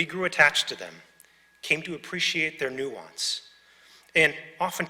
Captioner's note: none